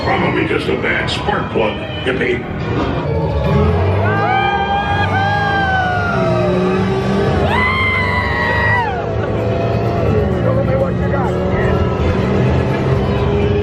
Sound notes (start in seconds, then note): 4.5 pair howling; 7.8 engine humming; 7.8 screams